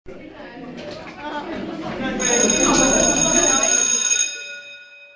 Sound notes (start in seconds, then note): 0.0 students chattering; 2.2 bell rings